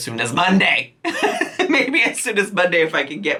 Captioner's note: laughing